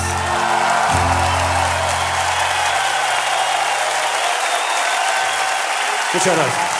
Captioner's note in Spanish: Aplausos y vítores